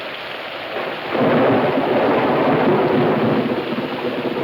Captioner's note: thunder claps